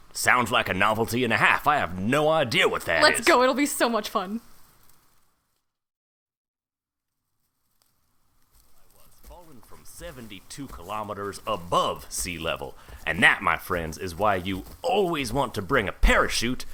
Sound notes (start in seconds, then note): 9.6 SFX: Time passes - leaf crunching noises fade out and fade back in